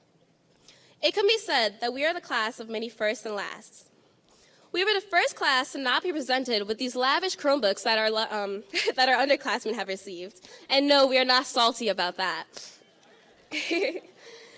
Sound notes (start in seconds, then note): 8.4 laughing; 13.5 laughing